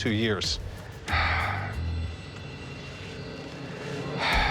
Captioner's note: exhales